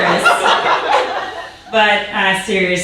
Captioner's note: audience laughing